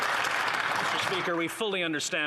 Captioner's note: applause